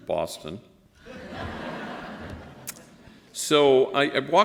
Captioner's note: laughter